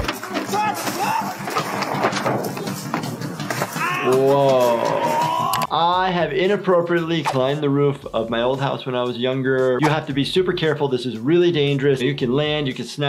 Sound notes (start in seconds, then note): 0.0 crash; 0.9 screaming; 3.9 yelling